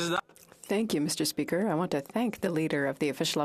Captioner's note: speaking French